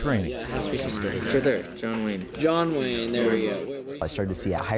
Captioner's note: class in discussion